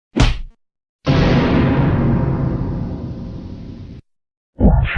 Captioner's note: GoAnimate Dramatic Sound